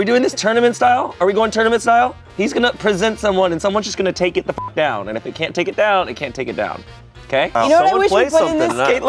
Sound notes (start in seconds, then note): 4.6 beep